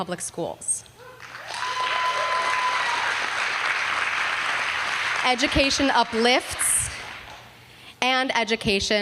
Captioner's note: applause